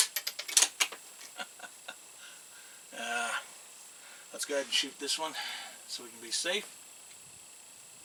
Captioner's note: laughs